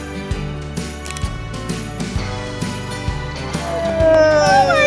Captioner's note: camera snapping